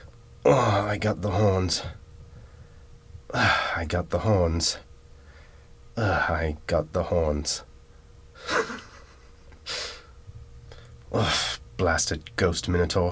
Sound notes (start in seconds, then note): 0.3 grunts; 3.5 grunts; 6.1 grunts; 8.4 laughs; 11.2 grunts